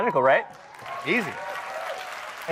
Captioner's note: audience cheers